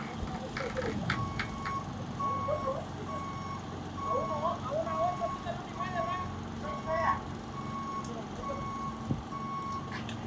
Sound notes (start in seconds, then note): 1.0 crane beeping